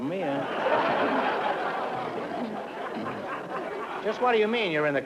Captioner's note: laughter